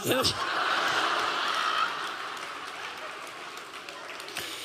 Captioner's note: audience laughing